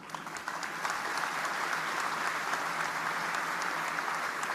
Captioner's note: audience applauding